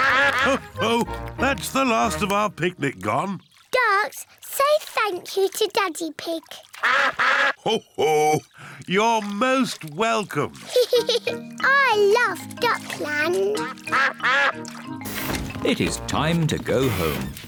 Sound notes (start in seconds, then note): 6.8 all quack; 10.6 giggles